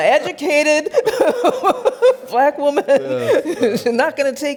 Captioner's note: laughs